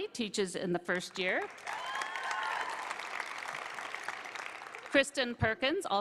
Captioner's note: applause